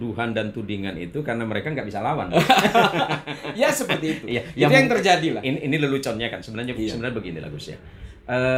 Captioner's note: laughs